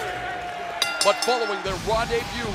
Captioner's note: bell ringing